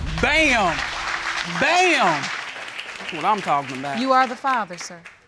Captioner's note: audience applauds